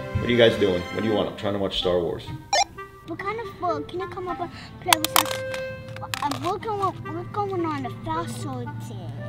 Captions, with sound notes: What are you guys doing? What do you want? I'm trying to watch Star Wars. (beep) - We're kind of bored, can you up and play us? We're going on a fossil dig and learn about fossils.